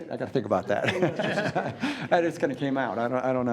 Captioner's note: laughs